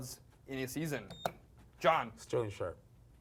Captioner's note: beep